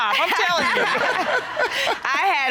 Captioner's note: laughs